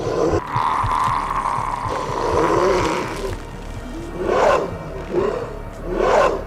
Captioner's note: Terry growling; brooding music continues; Terry growling; skin tearing